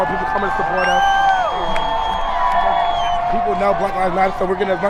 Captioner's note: crowd cheering